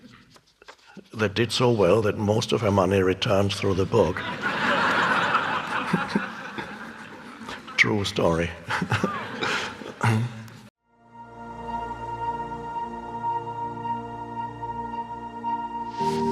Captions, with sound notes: that did so well that most of her money returned through the book.(audience laughing) True story. (giggles) (soft music)